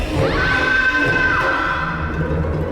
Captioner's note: screams